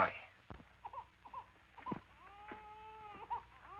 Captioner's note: baby wailing